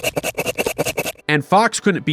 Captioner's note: frantic sawing